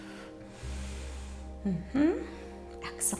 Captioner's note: exhales